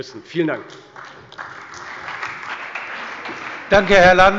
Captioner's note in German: Beifall bei der CDU und dem BÜNDNIS 90/DIE GRÜNEN